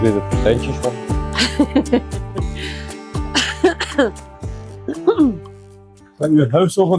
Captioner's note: laughter